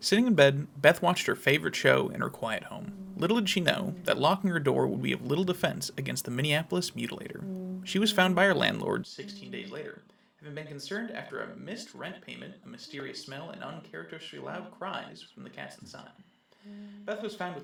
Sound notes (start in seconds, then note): 0.3 true crime narration starts; 9.8 distant humming